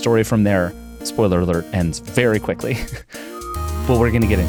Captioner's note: chuckles